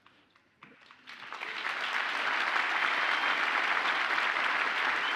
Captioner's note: audience applauds